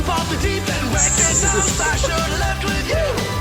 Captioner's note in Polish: syk gaszonego patyka w leczo